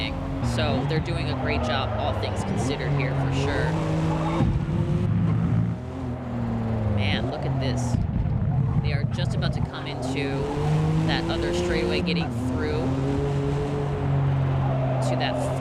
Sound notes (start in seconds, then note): 3.8 engines roaring